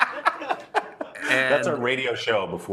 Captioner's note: laughter